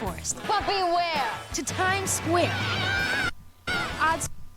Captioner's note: cheering